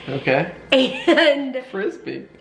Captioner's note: chuckling